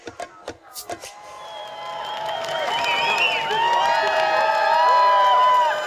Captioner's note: lively rhythmic music; crowd cheering and applauding